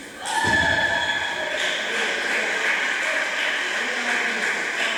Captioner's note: applause